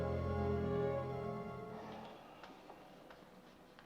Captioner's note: none